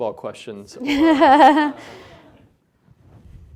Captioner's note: laughing